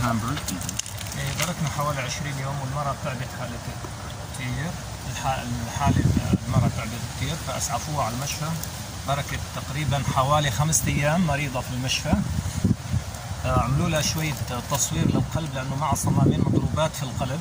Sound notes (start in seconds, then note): 12.1 speaking Arabic